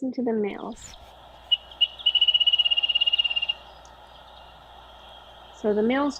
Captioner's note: bird singing